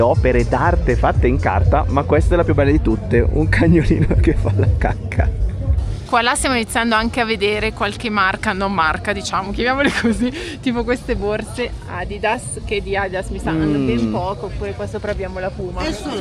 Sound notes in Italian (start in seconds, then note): 3.8 risate; 9.8 risate